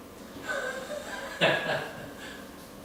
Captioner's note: chuckling